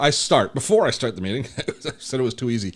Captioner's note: laughs